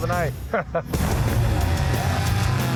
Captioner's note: laughter; gunshot